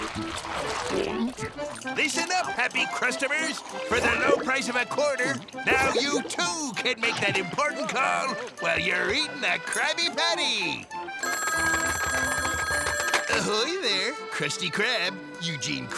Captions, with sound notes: Listen up happy krustomers, for the low price of a quarter, now you too can make that important call while you're eating a Krabby Patty. [phone ringing] Ahoy, there, Krusty Krab, Eugene Krabs,